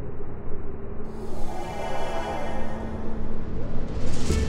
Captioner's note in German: Transportergeräusch